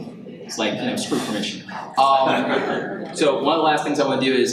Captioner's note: audience laughs